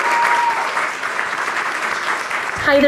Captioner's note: audience cheering and applauding